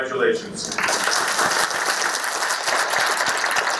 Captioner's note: applause